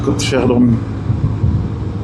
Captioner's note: engine